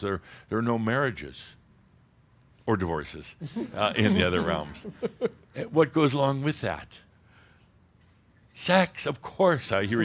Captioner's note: giggles